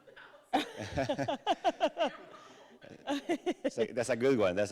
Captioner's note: all laughing